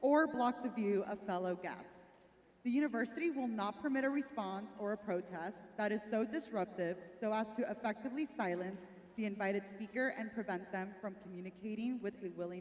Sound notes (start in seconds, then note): none